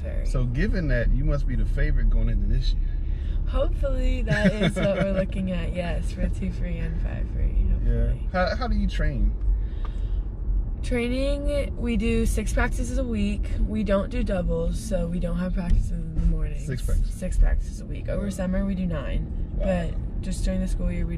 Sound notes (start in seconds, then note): 4.2 laugh